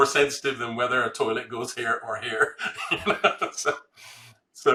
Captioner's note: laughs